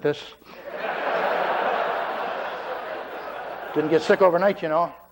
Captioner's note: laughter